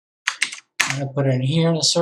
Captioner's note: keyboard clicking